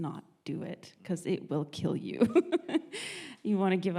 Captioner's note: laughs